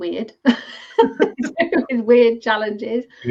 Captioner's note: laughing